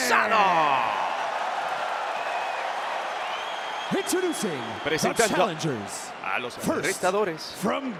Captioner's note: applause